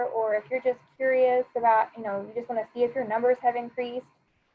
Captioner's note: none